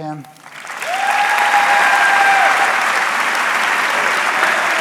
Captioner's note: audience cheering